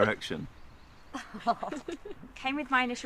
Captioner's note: Tilly laughing